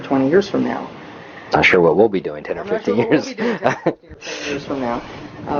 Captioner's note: laughs